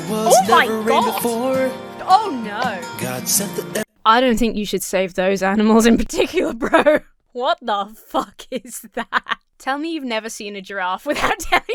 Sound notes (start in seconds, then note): 6.6 Emma laughs nervously